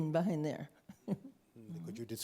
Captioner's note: chuckles